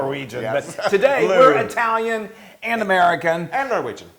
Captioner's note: laugh